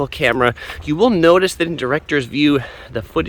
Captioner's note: sighs